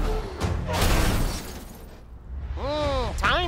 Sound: metal crunching; glass shattering

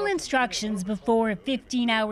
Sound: speaking Foreign Language

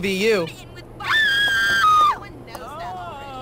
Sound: casually screaming

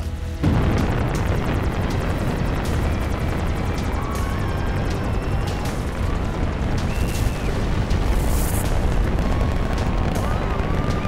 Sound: roar Of Rocket Engines

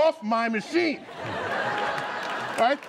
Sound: laughter

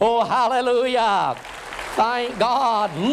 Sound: applause

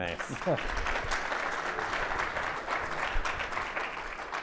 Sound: audience applauding

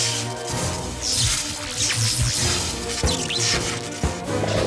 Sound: eel zzzt, energy buzzes

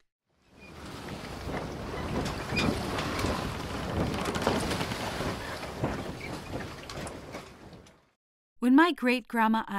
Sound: boat, water, and bird sounds

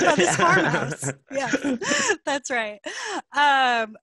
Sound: laughing

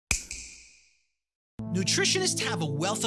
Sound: snap

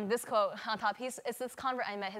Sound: speaks foreign language

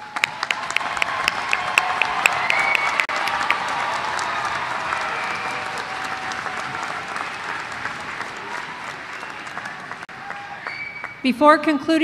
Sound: applause

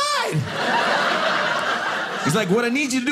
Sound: audience laughing

